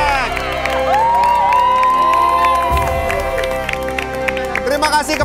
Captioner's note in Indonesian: shouting